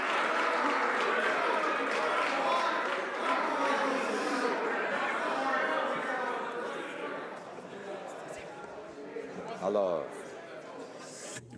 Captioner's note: some Applause